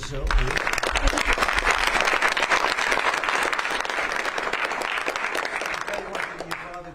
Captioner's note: applause